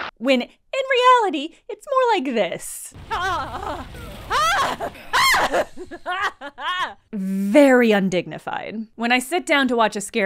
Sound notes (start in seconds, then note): 3.0 scream!; 3.0 scream!!; 5.1 scream!!!; 5.9 that dissolves into nervous laughter